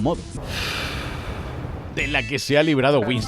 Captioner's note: deflates with a sigh